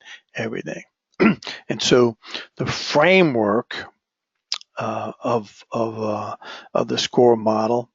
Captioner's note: cough